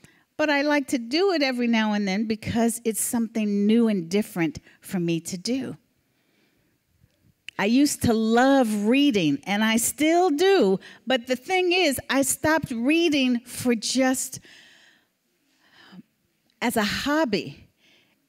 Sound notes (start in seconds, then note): none